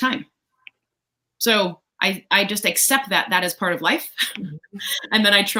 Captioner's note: laughs